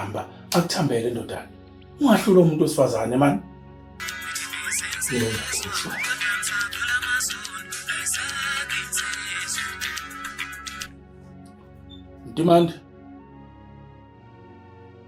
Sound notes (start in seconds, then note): 6.3 phone Ringing